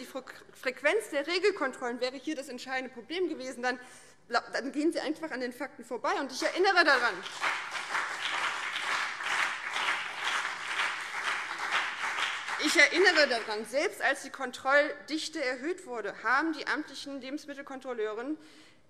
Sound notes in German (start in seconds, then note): 6.8 Beifall BÜNDNIS 90/DIE GRÜNEN und CDU